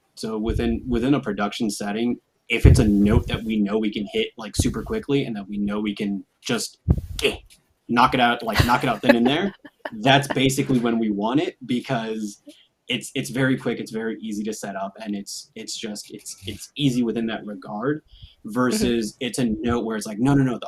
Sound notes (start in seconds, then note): 7.0 claps